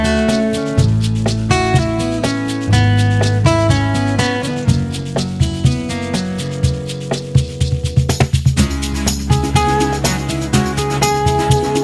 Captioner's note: clap